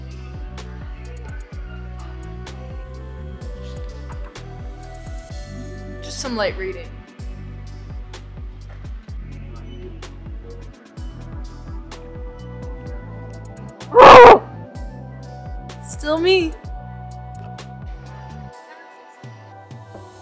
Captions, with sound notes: (mellow music) Just some light reading. (mellow music) (grunting) It's still me. (mellow music)